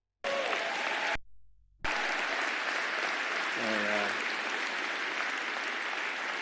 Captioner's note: applause and cheers